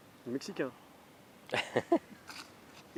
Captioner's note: laughter